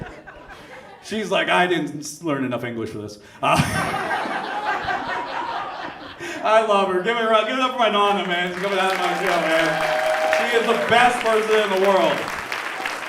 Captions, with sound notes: She's like, I didn't learn enough English for this. (audience laughs) I love her. Give a round-. Give it up for my Nonna, man. (audience cheers and applauds) She's the best person in the world.